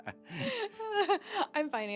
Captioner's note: both laughing